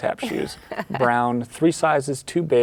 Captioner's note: laughing